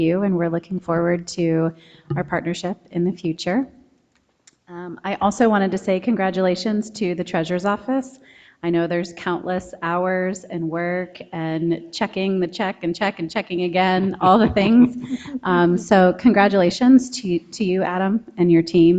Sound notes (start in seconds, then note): 14.0 people chuckle